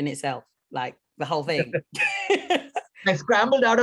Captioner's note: laughs